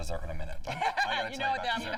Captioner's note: laughter